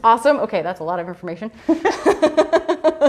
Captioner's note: laughs